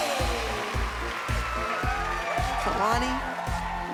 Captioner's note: cheering and applause